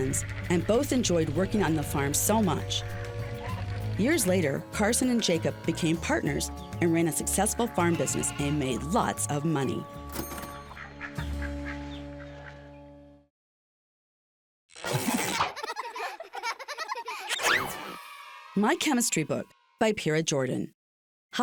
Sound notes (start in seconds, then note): 10.5 bell dinging; 15.2 children laughing